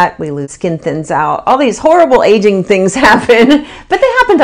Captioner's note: laughs